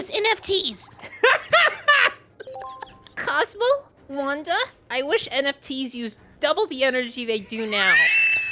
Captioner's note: Timmy voice; laughing; Timmy voice; wheeze laughing